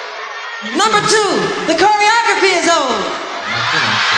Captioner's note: cheering